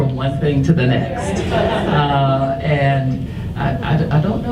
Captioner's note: audience laughs